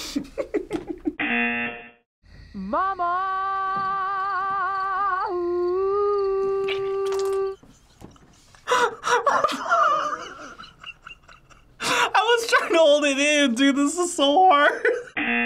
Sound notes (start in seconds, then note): 0.0 laughs; 1.2 buzzer rings; 7.6 laughs